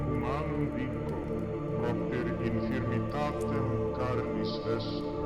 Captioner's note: speaking in foreign language